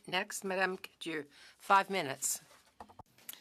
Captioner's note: speaking French